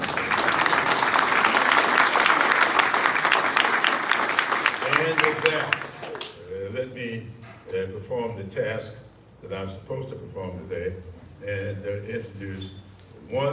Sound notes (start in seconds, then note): 1.9 applause